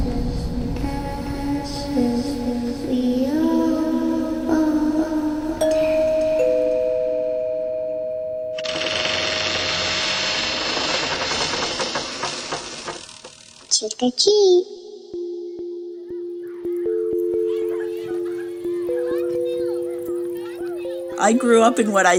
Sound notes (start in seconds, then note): 3.8 singing; 8.3 soundbite of doorbell ringing, door opening